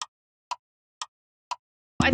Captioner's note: clock Ticking